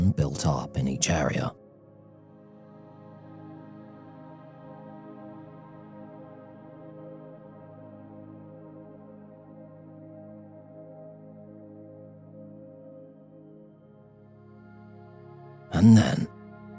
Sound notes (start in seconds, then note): 3.0 15s silence